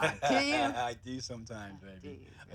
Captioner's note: laughs